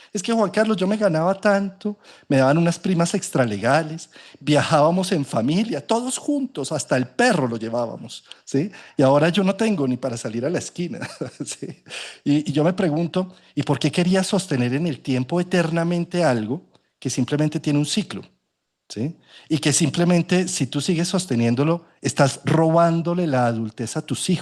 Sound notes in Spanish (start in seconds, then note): 10.9 risas